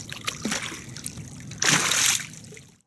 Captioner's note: water splashes